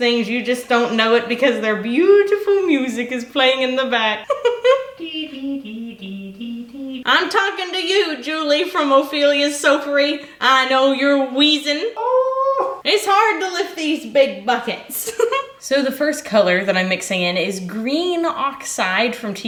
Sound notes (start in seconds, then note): 4.2 laughing; 5.1 humming; 14.7 laughing